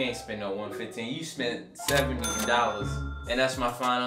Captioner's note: ka-ching